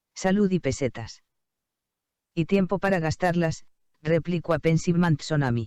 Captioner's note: computer speaking in Spanish